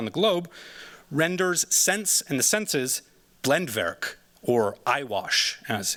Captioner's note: non-english